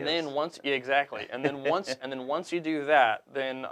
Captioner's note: laughs